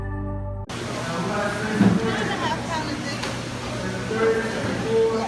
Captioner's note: customers murmuring